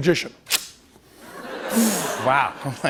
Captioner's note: laughter